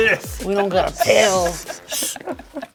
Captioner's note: laughing